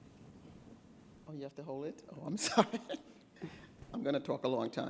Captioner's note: chuckles